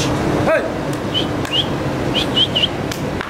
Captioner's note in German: Pfeifen